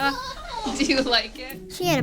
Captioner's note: chuckles